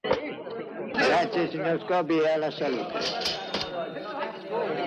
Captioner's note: chattering